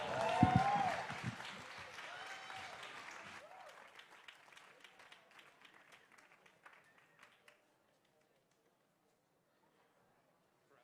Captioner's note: applause